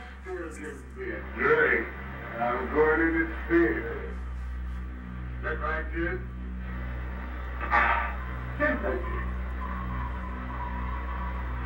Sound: TV blares

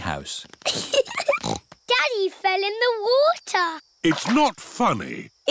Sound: giggling

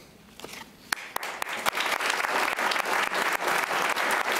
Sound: applauding

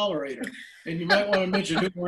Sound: laughing

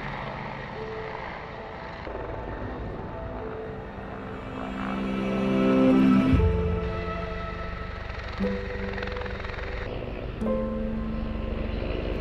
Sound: helicopter whir

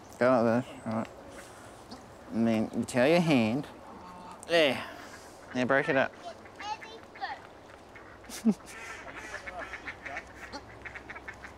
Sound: laughs

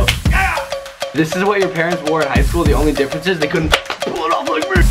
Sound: slap; slap

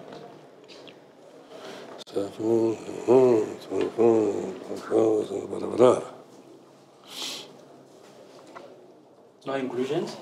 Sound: grumbles the numbers

